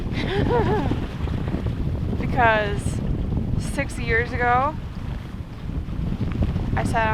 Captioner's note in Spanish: risas